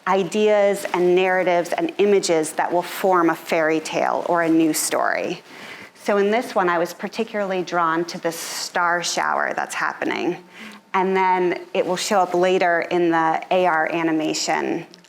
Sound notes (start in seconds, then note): none